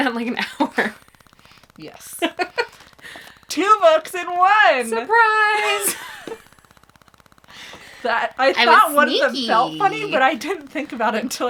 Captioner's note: laughs; laughs